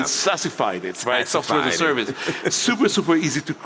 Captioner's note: laughs